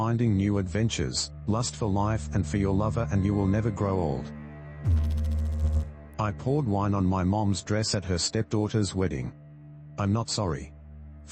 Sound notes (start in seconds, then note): 4.8 electrical noise